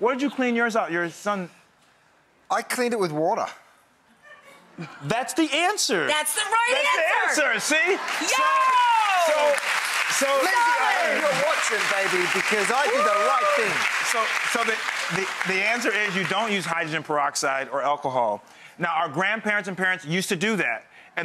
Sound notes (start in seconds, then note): 4.2 woman in audience laughs; 8.4 audience applauds